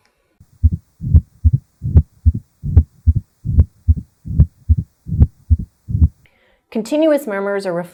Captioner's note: heart beating